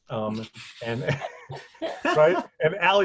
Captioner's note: laughing